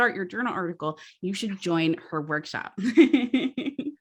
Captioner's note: laughs